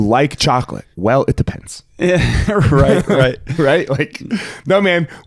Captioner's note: chuckling